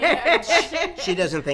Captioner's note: laughing